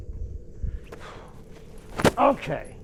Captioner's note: jacket thwacks on ground; Dogmouth sighs